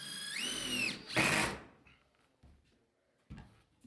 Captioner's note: drilling sounds